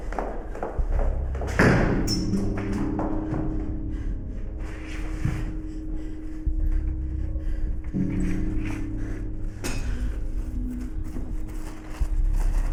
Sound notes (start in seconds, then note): 4.2 hard breathing; 7.2 soft dramatic music